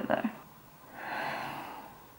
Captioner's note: sighs